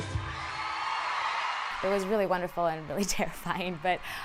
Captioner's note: audience cheers